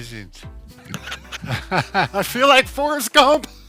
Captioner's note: laughs